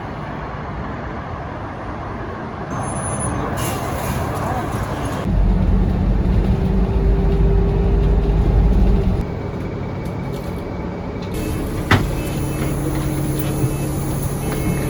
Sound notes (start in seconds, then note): 3.2 bus halts